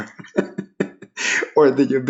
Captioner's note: laughing